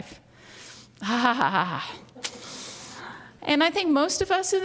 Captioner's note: laughs